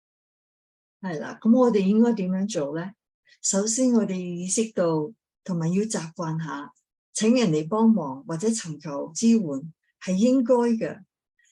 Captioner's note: speaking chinese